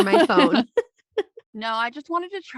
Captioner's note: laughing